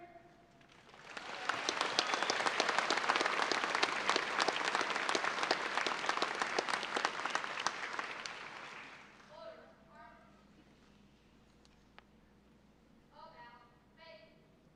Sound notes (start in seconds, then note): 0.6 applause